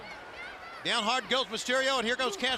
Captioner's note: crowd chatter